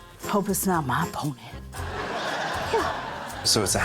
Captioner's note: laughter